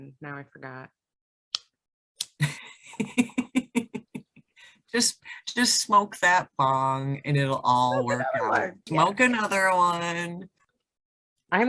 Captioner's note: laughs